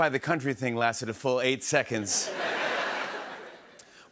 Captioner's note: laughter